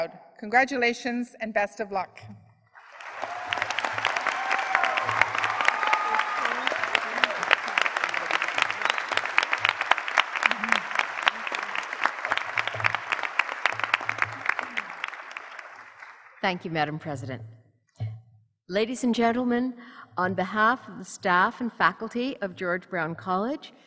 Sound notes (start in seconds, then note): 2.8 applause